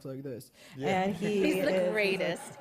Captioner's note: laughter